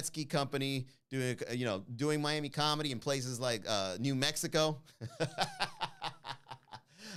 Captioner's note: laugh